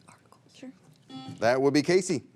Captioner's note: buzzer rings